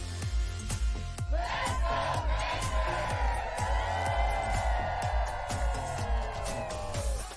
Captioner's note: all cheering